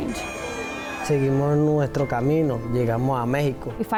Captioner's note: speaking foreign language